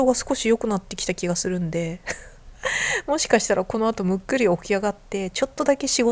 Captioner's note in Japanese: 笑い